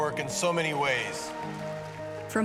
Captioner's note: applause